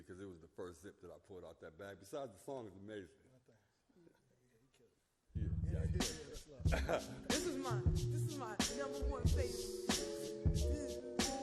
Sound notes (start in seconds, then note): 6.6 both laugh; 11.2 upbeat music